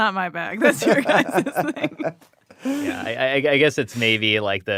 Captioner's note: laughs